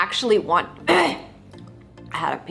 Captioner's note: clears throat